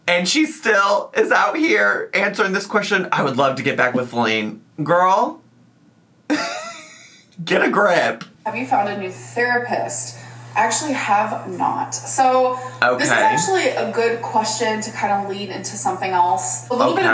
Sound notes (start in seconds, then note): 6.3 laughs